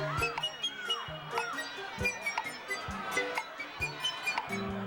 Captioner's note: audience shouting